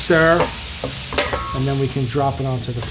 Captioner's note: food sizzles; pan clinks